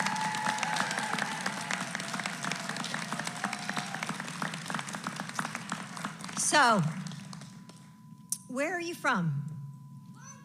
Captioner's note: applause